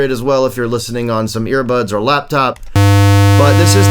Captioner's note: tone on